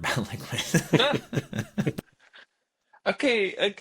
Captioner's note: both laughing